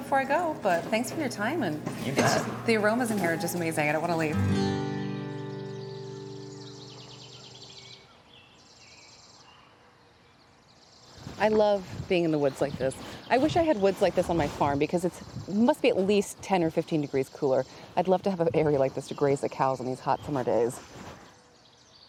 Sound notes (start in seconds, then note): 5.1 birds chirping